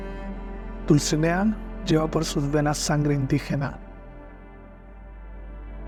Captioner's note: narrator speaking in foreign language